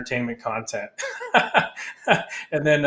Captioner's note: laughing